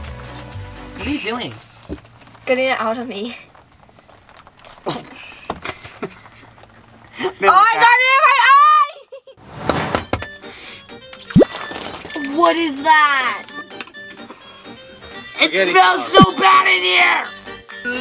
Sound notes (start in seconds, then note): 5.6 chuckling; 9.6 air whooshing; 9.6 button clacking; 11.2 sauce splashing; 11.2 special effects blooping